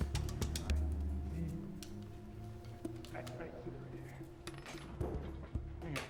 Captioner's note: muffled chatter